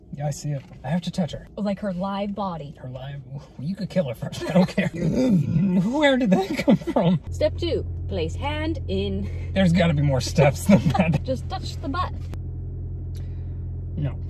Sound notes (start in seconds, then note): 4.9 burping; 10.4 laughing